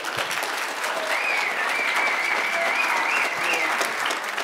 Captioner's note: cheers, applause